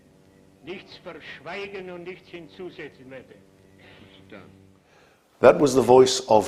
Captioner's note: Julius speaking foreign language